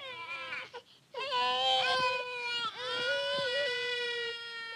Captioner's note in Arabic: بكاء الاطفال